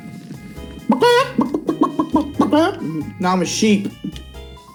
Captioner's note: clucks like a chicken